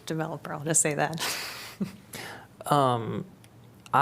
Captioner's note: laughter